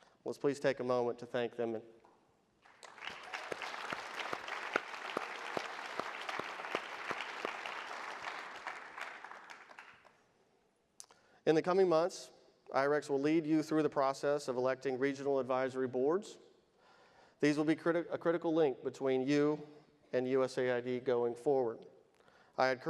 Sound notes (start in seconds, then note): 2.6 audience applauds